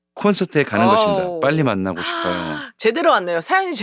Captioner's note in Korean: 감탄